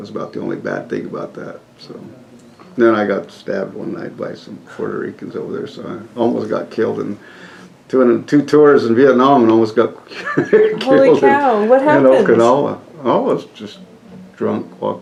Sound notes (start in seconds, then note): 10.1 laughs